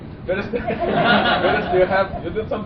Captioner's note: laughter